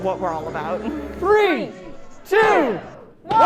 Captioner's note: crowd